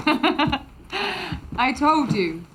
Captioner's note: laughs